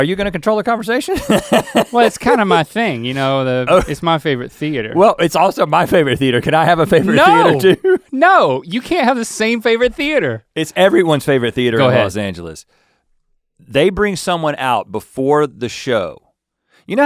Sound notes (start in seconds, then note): 1.1 Rhett laughs; 5.9 Rhett laughs